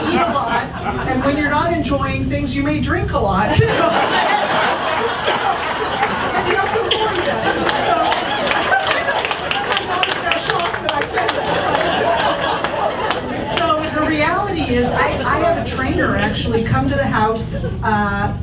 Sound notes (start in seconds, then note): 0.0 audience laughs; 4.0 audience laughs and applauds